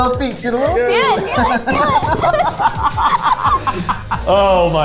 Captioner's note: group laughing